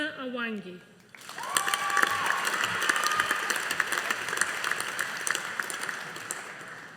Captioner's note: audience applauding